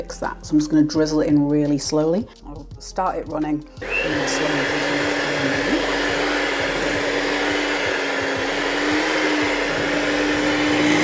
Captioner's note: cake mixer whirring